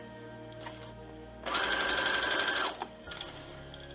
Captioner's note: sewing machine running